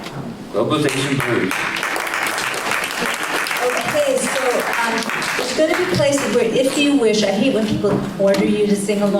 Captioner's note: applause